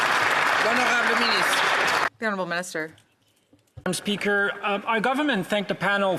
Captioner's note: some Applause